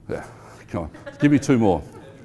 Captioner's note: laughing